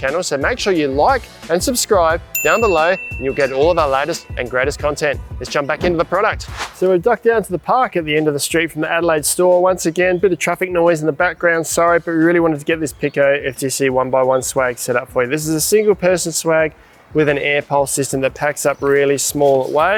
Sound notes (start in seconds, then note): 2.3 bell dings; 6.4 air whooshing